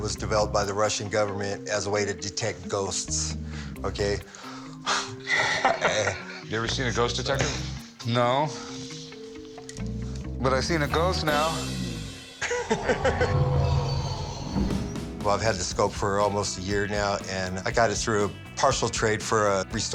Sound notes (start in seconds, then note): 4.9 laughs; 12.4 man laughs